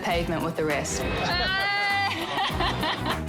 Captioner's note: laughter